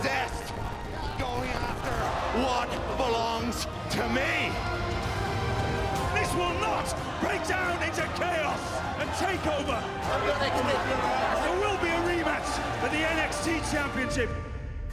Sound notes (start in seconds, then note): 10.3 crowd chatter